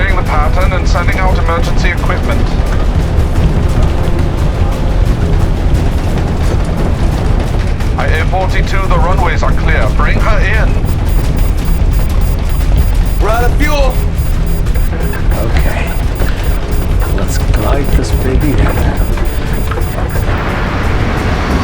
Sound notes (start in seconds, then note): 10.8 alarm